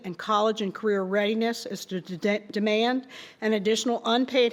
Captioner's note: none